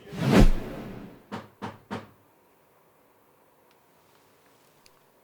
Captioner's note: knocking on door